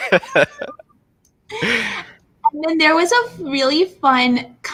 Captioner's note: laughing